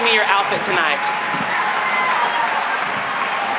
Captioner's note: applause